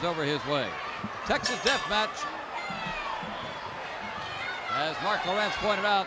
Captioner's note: bell rings